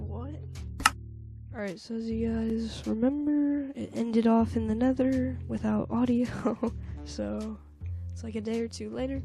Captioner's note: giggle